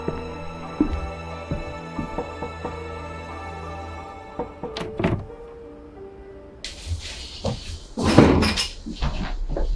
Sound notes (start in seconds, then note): 0.0 footsteps; 0.0 mysterious music; 4.4 knocking on door